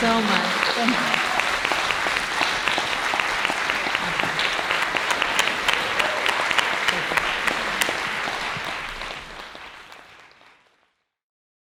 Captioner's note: applause